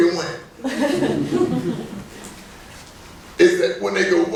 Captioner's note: laughing